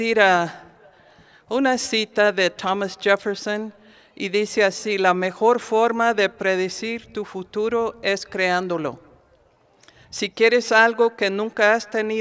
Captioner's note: speaking spanish